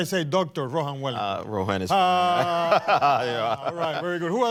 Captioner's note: laughs